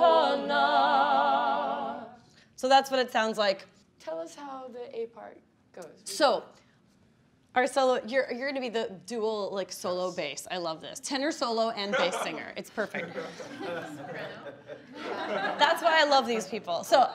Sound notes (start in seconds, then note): 12.8 laughing